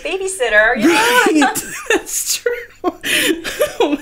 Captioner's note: laughing